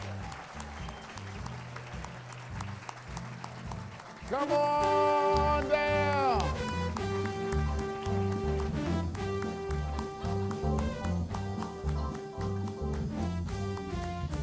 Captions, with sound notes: (applause) [applause and music] Come on down